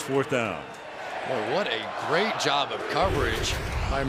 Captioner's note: crowd chanting